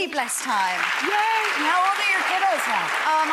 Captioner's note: audience applauds